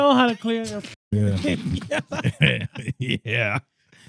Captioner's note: laughing